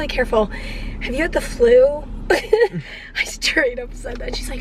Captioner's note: chuckles